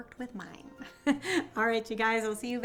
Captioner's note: laughs